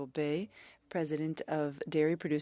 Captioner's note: speaking French